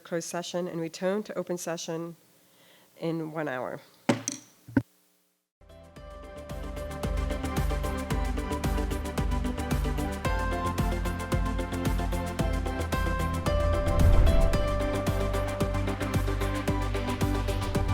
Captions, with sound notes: closed session and return to open session in one hour. (gavel taps) (upbeat music)